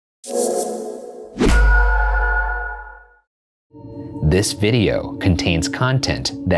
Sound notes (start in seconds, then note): 1.6 mystical ring; 3.7 haunting music